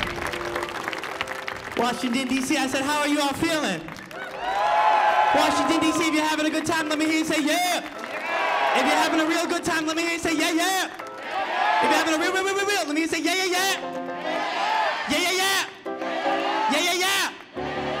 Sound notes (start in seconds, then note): 4.1 audience cheering